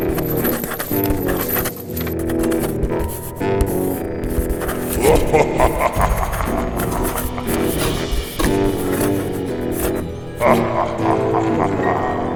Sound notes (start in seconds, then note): 4.5 scrabbing continues; 4.8 menacing laughter; 10.3 menacing laughter